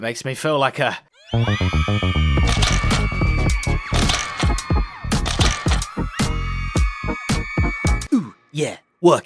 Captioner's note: camera shutters & audience cheering